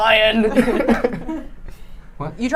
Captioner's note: laughing